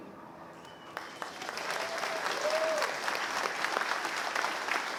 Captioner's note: applause